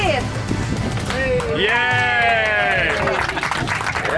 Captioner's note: applause